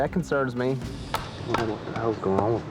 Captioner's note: machete bangs